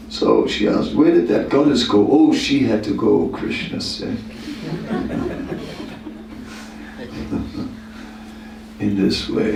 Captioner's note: laughter